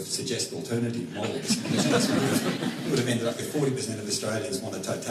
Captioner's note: laughter